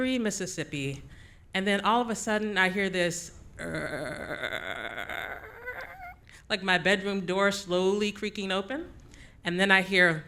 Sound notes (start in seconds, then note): 5.4 groaning